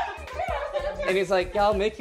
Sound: laughing and clapping

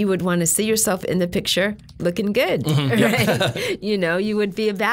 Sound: chuckling

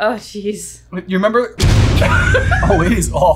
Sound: loud bang; laughing

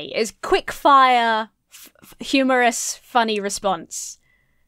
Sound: none

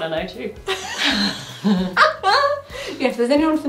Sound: both laughing

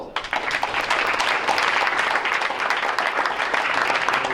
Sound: crowd applauds

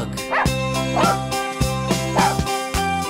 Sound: barking

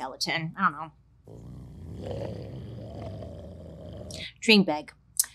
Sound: growling

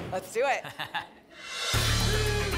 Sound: laughs

